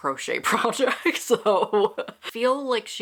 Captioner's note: laughs